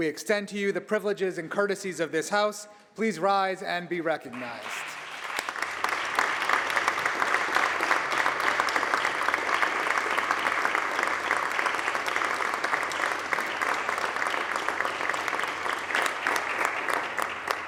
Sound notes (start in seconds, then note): 2.6 applause